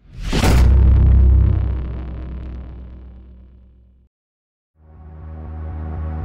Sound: metallic slam

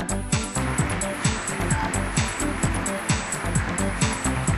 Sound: audience applause

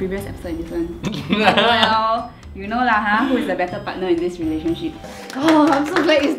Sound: laughs

